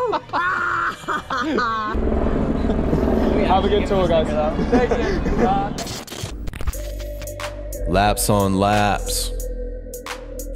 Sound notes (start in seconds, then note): 0.0 group laughs; 5.7 electronic sound effect; 6.6 hip hop beat playing